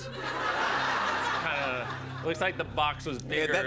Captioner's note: laughter